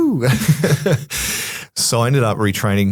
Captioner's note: laugh